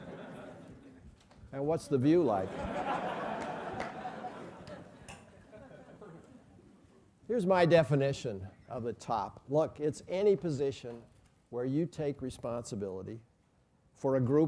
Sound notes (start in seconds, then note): 0.0 laugh; 5.6 laugh